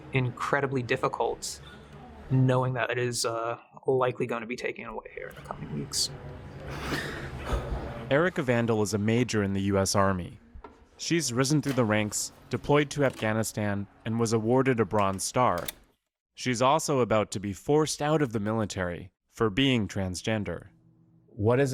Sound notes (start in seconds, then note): 8.5 voice-over